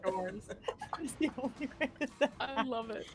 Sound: laughs

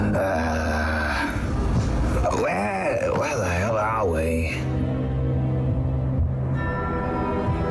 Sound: grunts

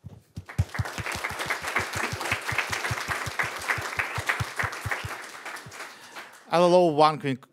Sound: applause

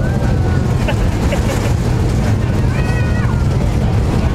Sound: laughing

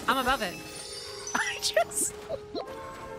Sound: laughing

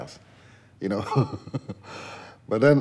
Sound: laughs

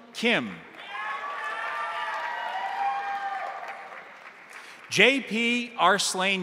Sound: crowd applauding; crowd cheering

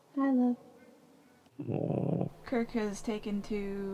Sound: groan

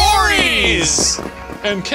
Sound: fireworks popping

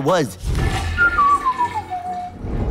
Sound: toilet flushing; whistling

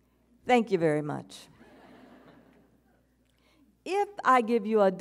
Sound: audience chuckles

